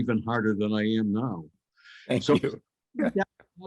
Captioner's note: chuckles